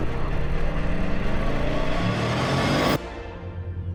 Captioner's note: engine roaring